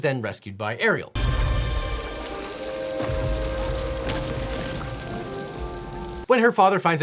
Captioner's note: dramatic music; fireworks exploding